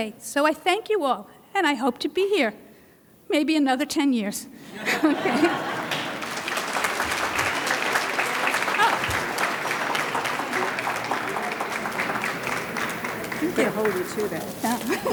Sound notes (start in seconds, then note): 5.6 audience laughs; 7.2 audience claps; 14.8 laughs